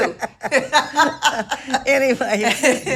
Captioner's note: both laughing